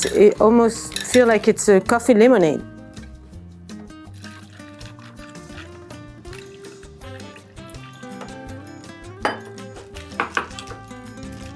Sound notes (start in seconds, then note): 3.3 gentle bright music; 3.3 ice crackles